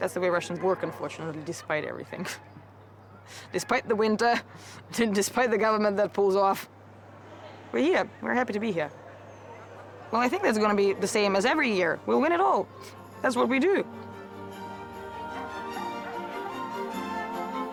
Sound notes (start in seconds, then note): 2.7 laughs; 14.5 uplifting music